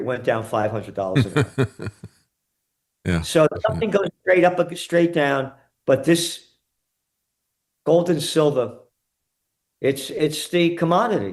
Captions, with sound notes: went down $500 an ounce. (Laughing) So, something goes straight up or straight down. But this gold and silver, it's the commodity.